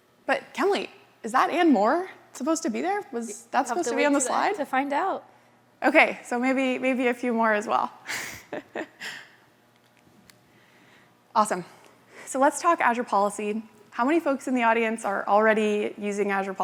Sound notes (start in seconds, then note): 8.1 laughter